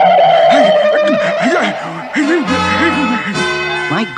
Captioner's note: Adam West Gasps